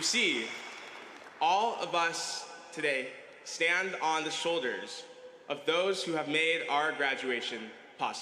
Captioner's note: applause